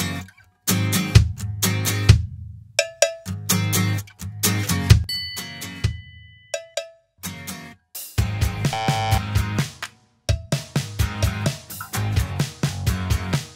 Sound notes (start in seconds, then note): 5.1 bell chimes; 8.7 buzzer buzzes